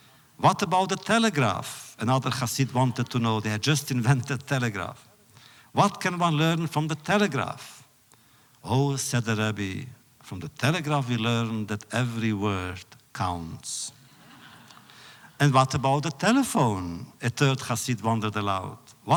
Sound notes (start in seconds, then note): 14.0 laughter